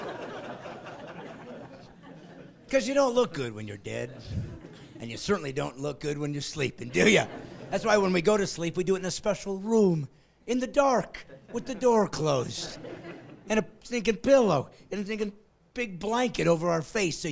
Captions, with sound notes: practice being dead. (laughing) Because you don't look good when you're dead and you certainly don't look good when you're sleeping, do ya? That's why when we go to sleep we do it in a special room in the dark with the door closed